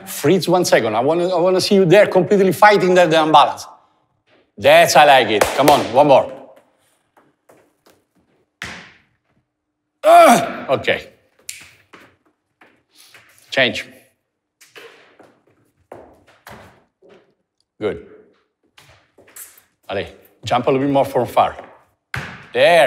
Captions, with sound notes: Freeze for one second. I wanna see you there completely fighting with the balance. That's it, I like it! Come on, one more. Ugh, okay... [snapping fingers] Change. Good. Jump a little bit more from far.